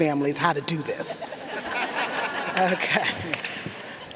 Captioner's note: audience laughing